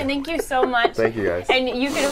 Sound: laughter

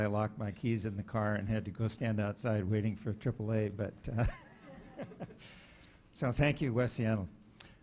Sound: laughing

